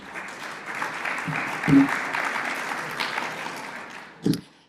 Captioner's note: audience applauding